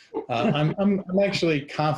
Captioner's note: all laughing